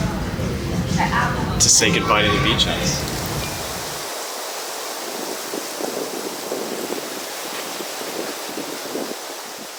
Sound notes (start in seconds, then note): 5.2 wind in the mic